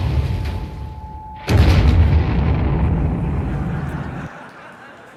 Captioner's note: explosion